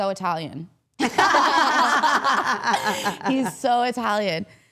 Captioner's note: all laughing